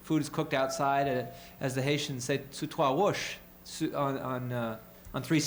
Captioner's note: speaking french